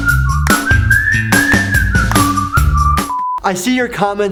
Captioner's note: upbeat whistling music; transition tone